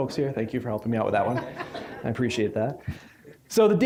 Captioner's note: audience laughing